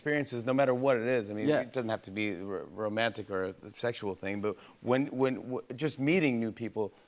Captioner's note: none